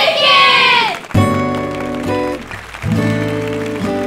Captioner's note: Everybody clapping